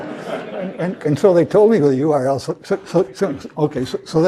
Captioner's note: laugh